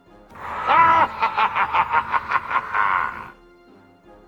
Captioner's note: evil laughter